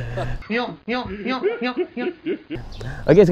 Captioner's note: giggles; old man laughs weirdly